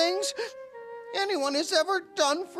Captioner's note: gasps